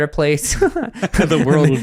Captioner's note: both laugh